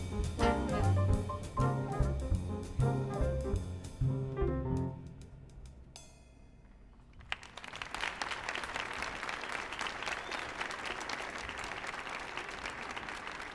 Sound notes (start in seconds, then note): 7.1 audience applauding